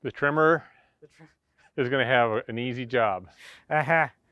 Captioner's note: chuckles